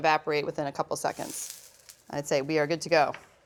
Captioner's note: sizzles